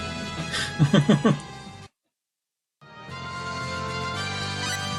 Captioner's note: laughs